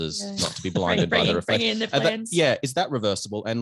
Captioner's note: others laughing